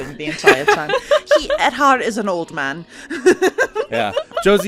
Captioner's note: laughs; laughter